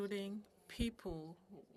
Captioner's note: speaking French